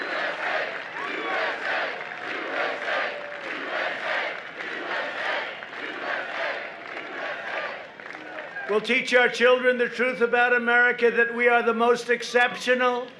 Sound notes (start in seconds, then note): 0.0 applause; 3.4 chanting